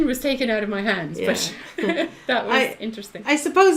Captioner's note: laughs